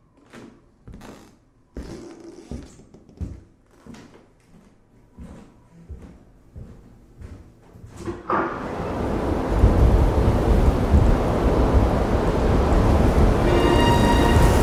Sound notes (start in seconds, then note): 1.7 footsteps receding; 8.0 door opening; 8.4 storm wind roaring